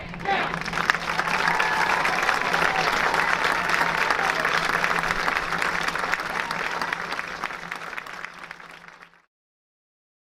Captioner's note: applause and cheers